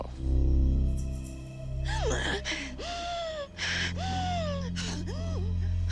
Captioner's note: hyperventilating